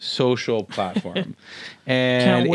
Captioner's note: laughs